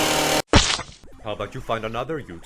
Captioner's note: effects get louder; splat sound effect